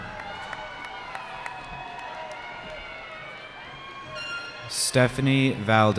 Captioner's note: cheering